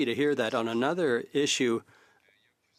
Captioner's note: speaking French